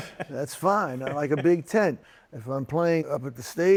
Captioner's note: laughter